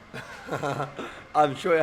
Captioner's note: laughs